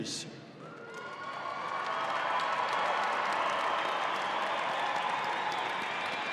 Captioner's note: audience applauding and cheering